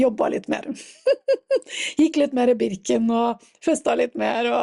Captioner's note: laughter